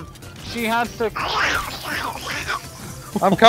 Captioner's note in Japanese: 理解できない悪魔の音